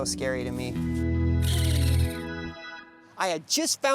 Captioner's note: raccoon chatters